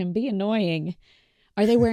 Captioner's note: chuckles